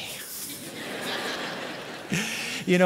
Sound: laughter

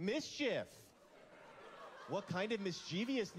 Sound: laughter

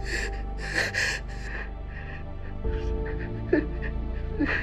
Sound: sobbing

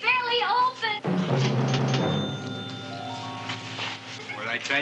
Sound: mysterious music; cash register ringing

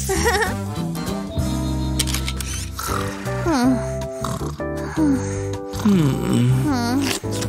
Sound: snoring

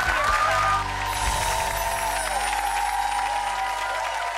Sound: audience cheering

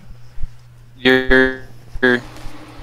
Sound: roboto voice

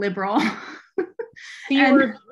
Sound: chuckling

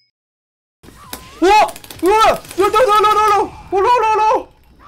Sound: unintelligble panicked yelling

